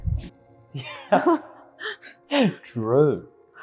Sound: both laughing

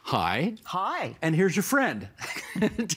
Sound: laughing

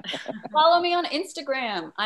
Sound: chuckles

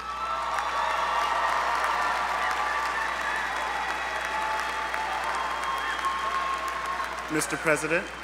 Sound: applause

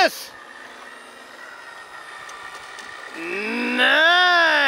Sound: machinery whirring

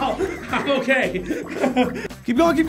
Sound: laughing

